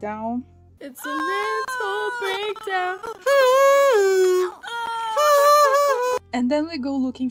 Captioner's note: Sim crying